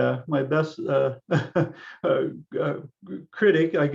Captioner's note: laughs